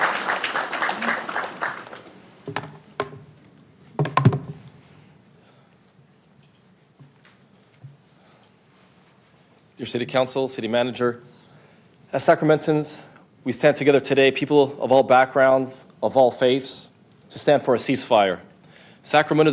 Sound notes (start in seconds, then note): 2.3 applause